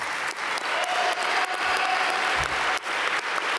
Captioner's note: applause